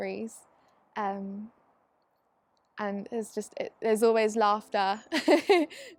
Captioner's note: laughs